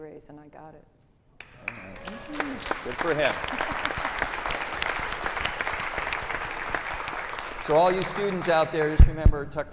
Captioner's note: applause